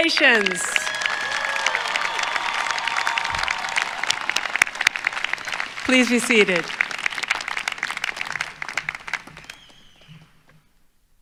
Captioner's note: applause